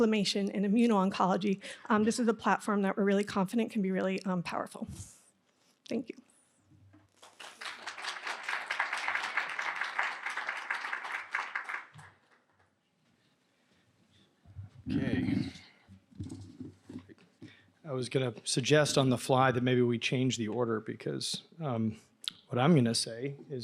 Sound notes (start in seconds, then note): 7.1 applause